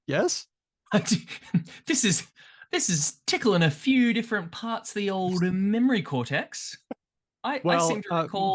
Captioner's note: chuckles